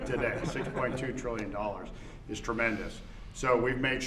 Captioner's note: laughter